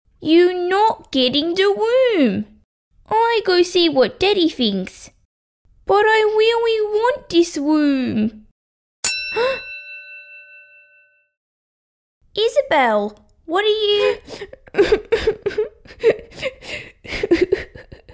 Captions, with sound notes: You not getting the room! I go see what Daddy thinks... But I really want this room... (Ding!) Huh! Isabelle, what are you... (Sobbing)